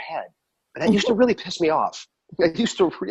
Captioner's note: laughs